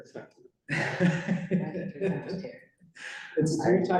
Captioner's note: laughter